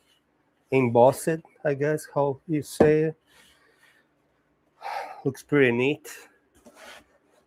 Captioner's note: sighs